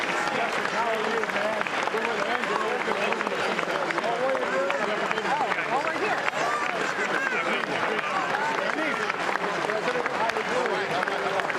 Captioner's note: applause